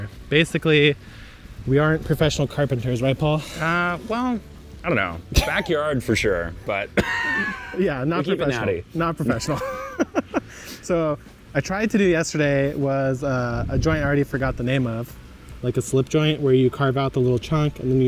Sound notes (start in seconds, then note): 4.9 chuckles; 6.9 laughs; 9.3 laughs